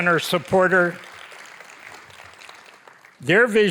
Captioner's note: audience applauding